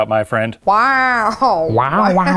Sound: in Owen Wilson voice; beeping and whirring

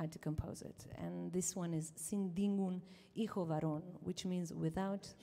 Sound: says song title in Ladino

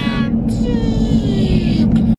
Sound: robot sound effect

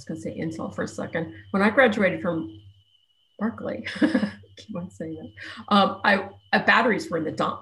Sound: laughs

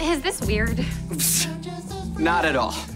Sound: scoffs

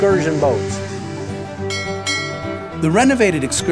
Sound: bell tolling

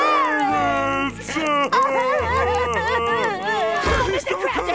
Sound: crying

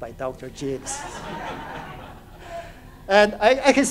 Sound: audience laughs

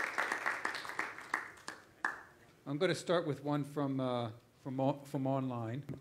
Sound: applause

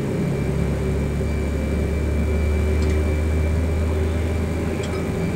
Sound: engine 1 spools up

